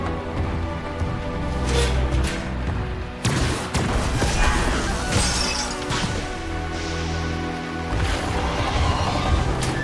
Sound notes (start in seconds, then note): 3.8 electrical charge; 5.1 glass shattering; 6.8 dramatic music